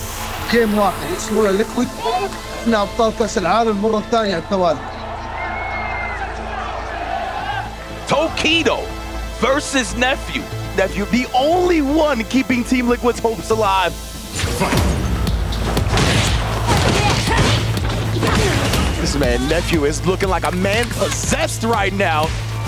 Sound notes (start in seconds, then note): 0.3 in Arabic; 6.3 crowd cheering; 18.1 fighters grunting